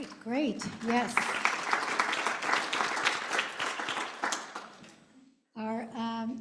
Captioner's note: applause